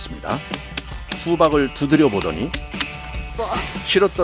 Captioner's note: tap tap tap tap